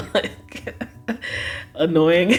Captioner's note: laughs